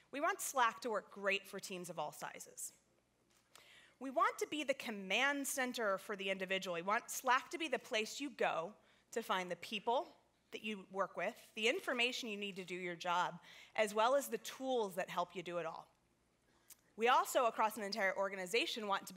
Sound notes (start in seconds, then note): none